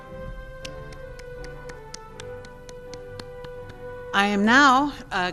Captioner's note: applauding